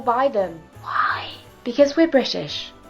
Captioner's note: whispering